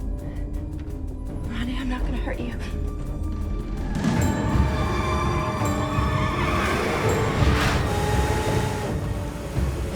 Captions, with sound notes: (suspenseful music) Ronnie, I'm not gonna hurt you. (car tires screeching)